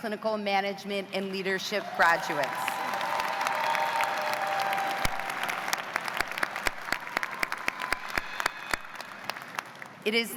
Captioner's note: cheers and applause